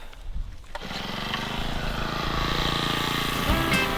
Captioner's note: drilling sounds